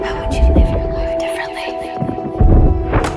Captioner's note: female voice echoes and whispers